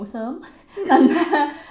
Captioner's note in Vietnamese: Cười